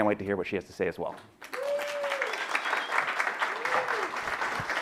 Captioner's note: audience applauds